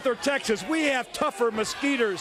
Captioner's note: crowd chatter